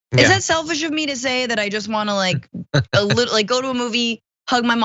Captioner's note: laugh